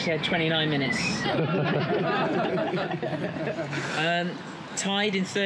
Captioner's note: group laughs